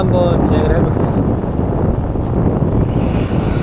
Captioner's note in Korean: 바람 소리대박